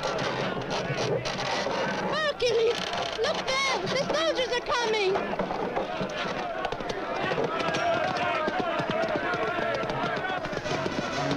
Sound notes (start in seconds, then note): 5.7 men shouting